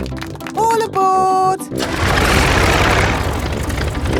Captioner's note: plane engine starts